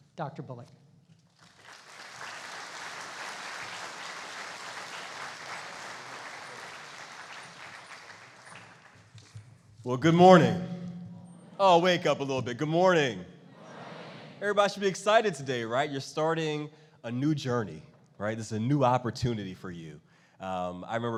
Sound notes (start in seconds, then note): 1.3 applauding; 13.3 crowd